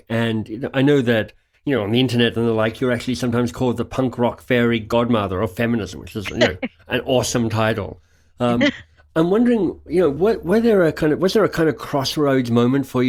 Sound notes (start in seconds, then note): 6.2 laughs